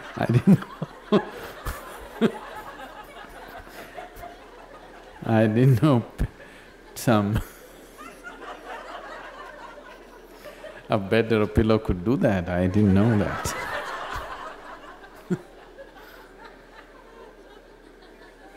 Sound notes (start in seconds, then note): 3.6 laughs; 8.4 more laughter